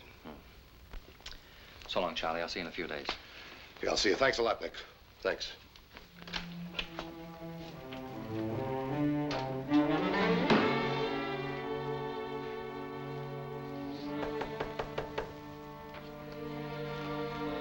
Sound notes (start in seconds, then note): 7.1 somber, dramatic music; 14.1 knocking